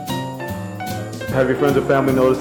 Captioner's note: voiceover